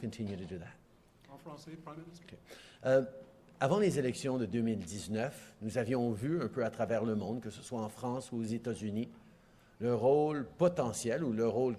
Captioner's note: speaking French